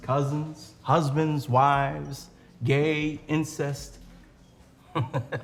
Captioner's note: laughs